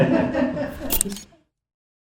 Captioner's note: camera shutter